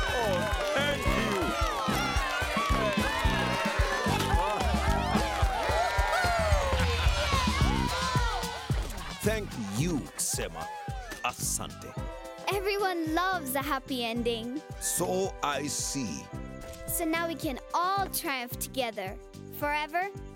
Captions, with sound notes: -Oh! Thank you. -[crowd continues cheering] Thank you. Huh! [chuckles] -[crowd cheering] -[goats bleating] [Tobor laughing] Thank you, Sema. [in Swahili] Thank you. Everyone loves a happy ending! So I see! So now we can all triumph together... forever?!